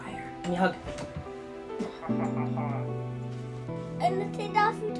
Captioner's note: chuckles